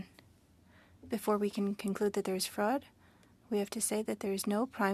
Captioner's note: speaking French